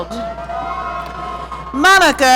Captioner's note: audience cheering